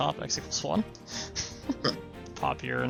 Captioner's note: both laugh